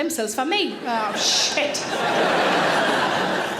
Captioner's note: audience laughs